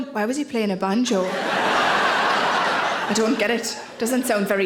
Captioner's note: audience laughing